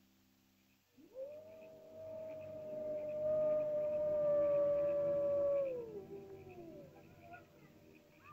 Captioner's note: animal howls; ominous music; animal chirping sounds; ominous music